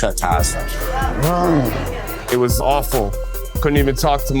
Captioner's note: grunts